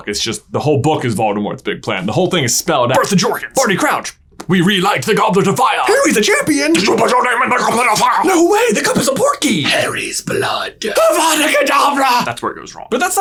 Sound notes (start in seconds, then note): 4.0 slurp noise